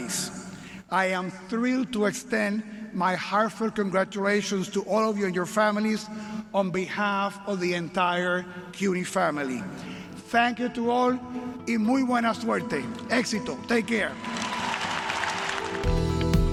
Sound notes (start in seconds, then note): 10.8 speaking Spanish